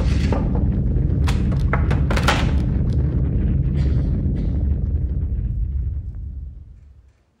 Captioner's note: thunder